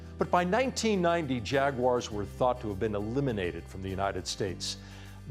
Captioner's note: none